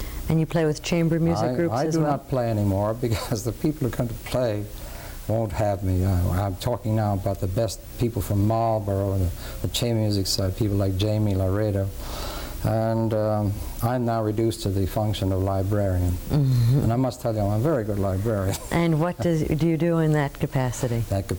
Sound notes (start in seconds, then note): 18.3 laughs